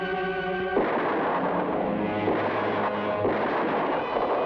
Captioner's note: gunshots blast